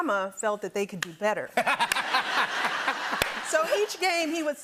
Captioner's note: laughter